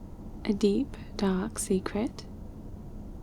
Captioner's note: conspiratorially